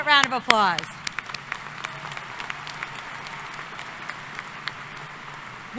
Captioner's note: applause